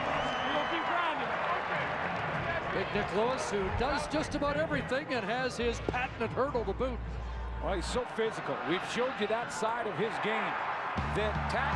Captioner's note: cheers and applause